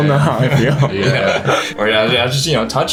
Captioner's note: everyone chuckles